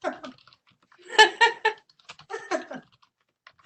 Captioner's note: laughter